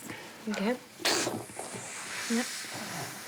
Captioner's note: snorts